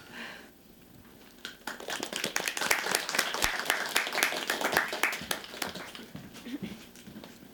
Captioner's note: applause